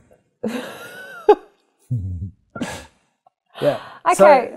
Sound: laughs

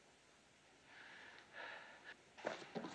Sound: breathing heavily

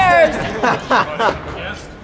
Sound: laughing

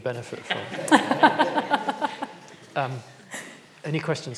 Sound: all laugh

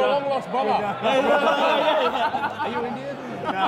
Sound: laughs

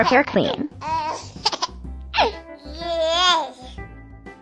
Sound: cooing continues

